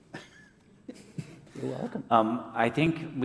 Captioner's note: chuckle